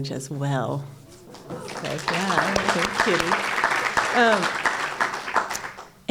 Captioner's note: applause